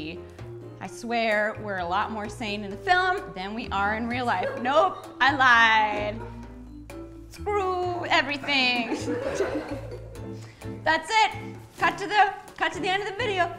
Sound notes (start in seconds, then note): 8.9 nervous giggle